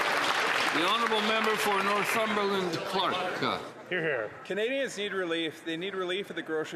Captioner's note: some Applause